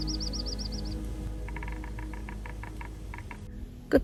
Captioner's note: sound of woodpecker